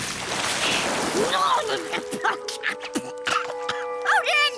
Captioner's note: splash; shouts and choking